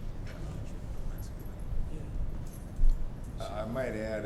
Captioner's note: speaking faintly